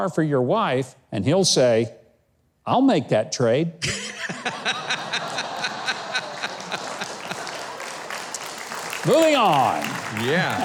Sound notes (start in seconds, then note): 3.9 crowd laughing